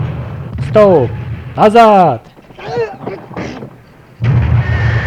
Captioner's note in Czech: svištění granátů a vybuchy